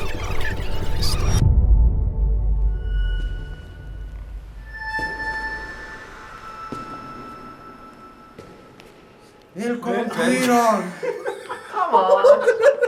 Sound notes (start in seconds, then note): 4.6 echoing footsteps; 10.7 giggling